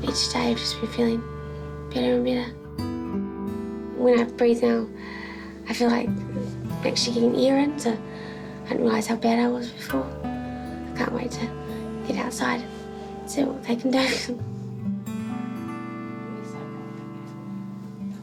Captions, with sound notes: Each day I've just been feeling better and better. When I breathe now... (INHALES) I feel like I'm actually getting air in. So, I didn't realise how bad I was before. I can't wait to get outside, see what they can do. (LAUGHS) (SERENE MUSIC)